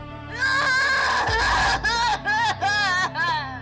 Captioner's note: screams